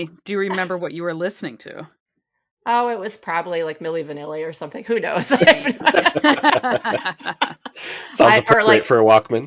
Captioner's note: laughter